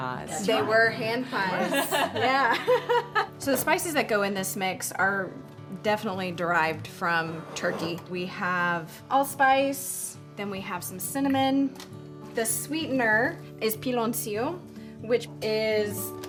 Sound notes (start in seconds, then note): 1.5 laughing